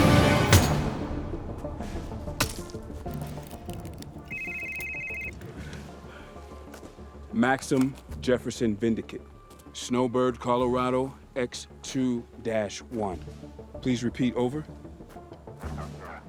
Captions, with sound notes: (hammer thunks) (phone rings) - Maxim, Jefferson, Vindicate, Snowbird, Colorado, X, 2 dash 1. Please Repeat. Over.